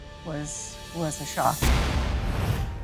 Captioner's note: thud